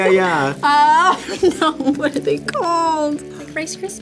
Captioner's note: laughs